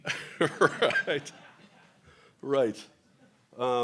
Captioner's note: laughter; chuckles